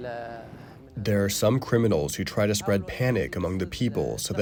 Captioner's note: through translator